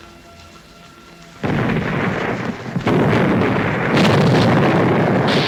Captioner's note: bombs exploding